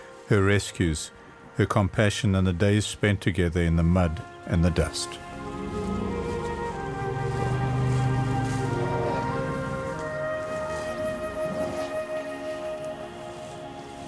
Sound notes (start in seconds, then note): 5.1 rumbling; 9.4 animals calling